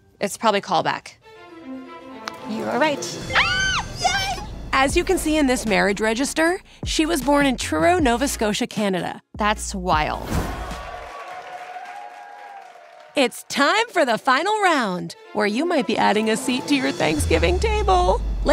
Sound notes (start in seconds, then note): 10.4 audience cheers